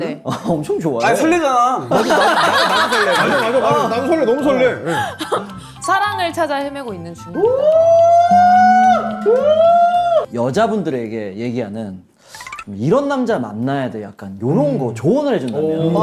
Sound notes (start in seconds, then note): 1.9 laughing